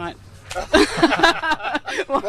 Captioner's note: laughter